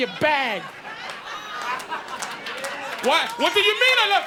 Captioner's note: audience laughing